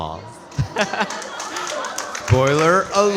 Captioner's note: audience clapping